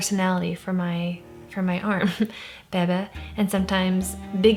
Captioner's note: laughs